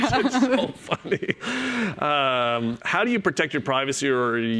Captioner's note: chuckles